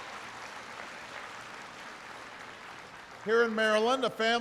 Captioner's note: applause